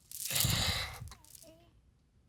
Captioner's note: sobbing